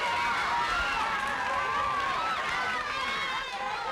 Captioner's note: crowd yelling